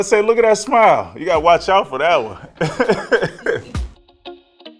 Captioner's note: laughs; bright upbeat music begins